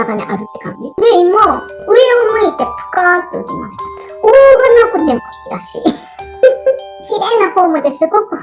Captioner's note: laughs